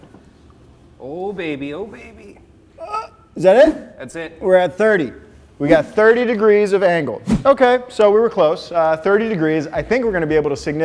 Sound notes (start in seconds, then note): 2.7 grunts